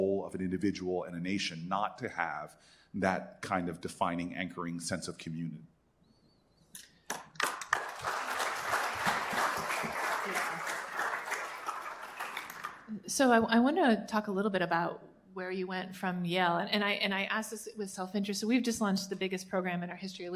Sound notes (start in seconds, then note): 7.0 applause